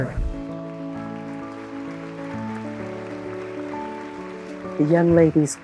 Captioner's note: audience applauding